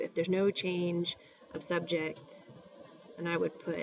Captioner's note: spanish